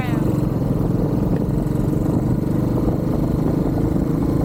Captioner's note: engine noise